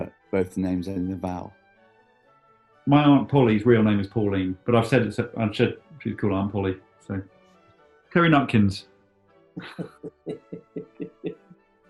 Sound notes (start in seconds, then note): 9.6 chuckling